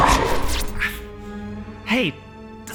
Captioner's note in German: Glitch